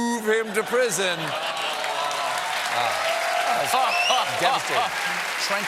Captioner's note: laughter; applause